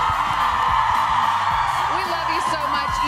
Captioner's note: applause